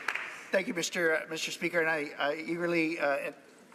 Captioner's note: some applause